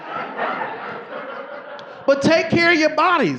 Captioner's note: audience laughing